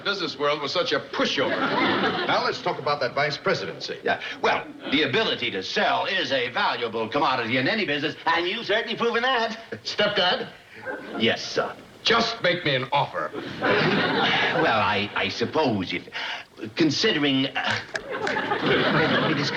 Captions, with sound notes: I had no idea the business world was such a pushover. Now let's talk about that vice-presidency. Yeah, well, the ability to sell is a valuable commodity in any business, and you've certainly proven that. Stepdad? Yes, son? Just make me an offer. (sighs) Well, I-I suppose... Considering...